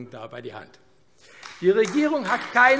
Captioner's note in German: Beifall AfD